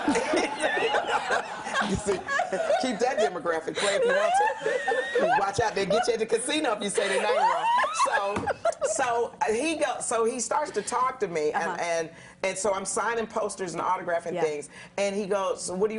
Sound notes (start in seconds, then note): 8.3 laughter